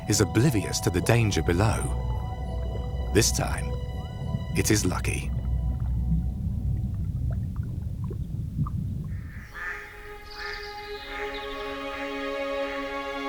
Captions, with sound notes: is oblivious to the danger below. This time, it is lucky. (birds calling)